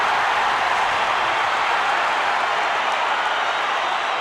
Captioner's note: crowd cheers